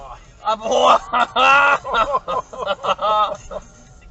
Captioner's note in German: Lachen